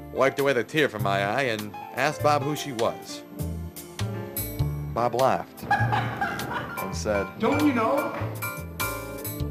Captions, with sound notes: wiped away the tear from my eye and asked Bob who she was. Bob laughed [ LAUGHTER ] and said, "Don't you know?"